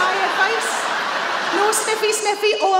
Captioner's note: audience laughing